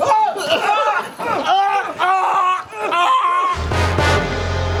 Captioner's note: screaming